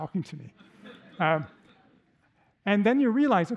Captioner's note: laughter